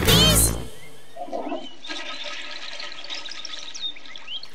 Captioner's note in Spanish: sonido baño